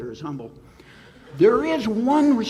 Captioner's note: audience laughs